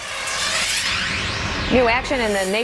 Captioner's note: air whooshing